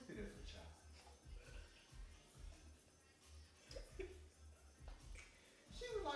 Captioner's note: laughing